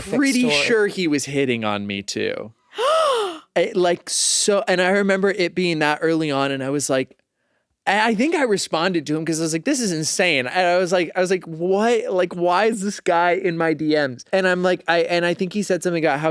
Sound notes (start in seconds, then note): 2.7 gasps